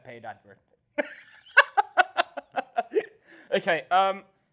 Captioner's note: laughs